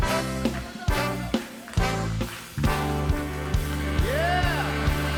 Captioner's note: audience applauding